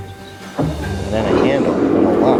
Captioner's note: engine starts